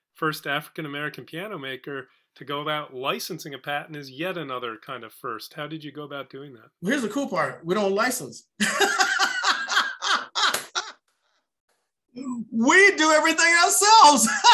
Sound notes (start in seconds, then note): 8.7 laughs and applauds; 14.1 laughs